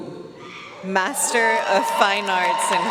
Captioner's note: audience cheering and applauding